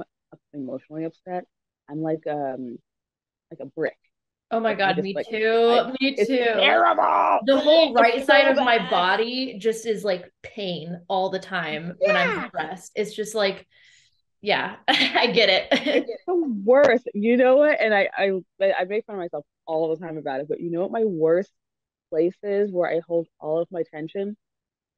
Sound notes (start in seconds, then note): 15.5 laughs